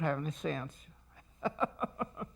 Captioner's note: laughs